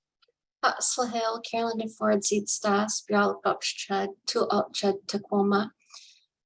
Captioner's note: speaking in her Native language